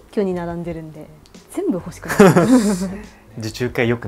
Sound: laughs

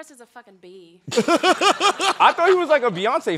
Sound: chuckling

